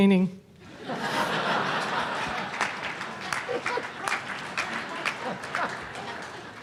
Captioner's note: audience Laughs